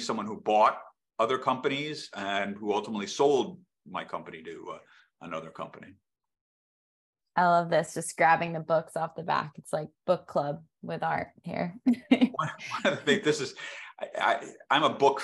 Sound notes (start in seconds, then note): 11.9 laughter